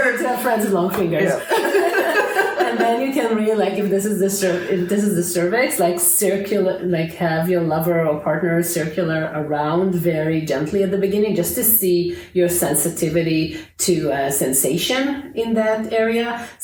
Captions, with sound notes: - Good to have friends with long fingers. (laughter) And then you can really like, if this is the cervix, like circular, like have your lover or partner circle around very gently at the beginning, just to see your sensitivity to sensation in that area.